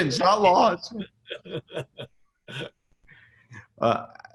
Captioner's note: both laugh